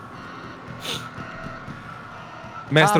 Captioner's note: sniff